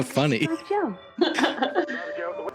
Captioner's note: laughs